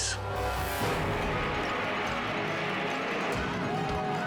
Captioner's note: engines roaring; spectators screaming